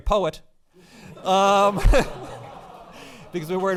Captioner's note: audience laughing